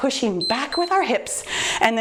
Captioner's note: timer beeps